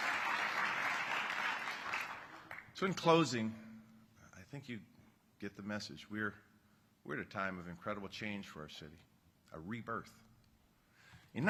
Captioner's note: applause